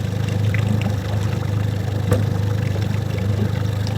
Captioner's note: boat motor runs